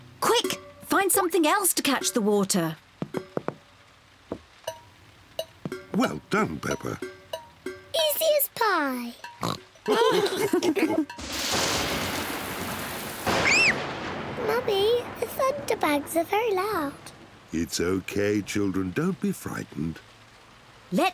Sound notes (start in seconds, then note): 9.4 oinks; 9.9 all laughing; 11.5 thunder rumbles; 13.3 screams